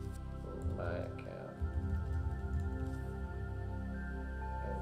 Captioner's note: keyboard clicking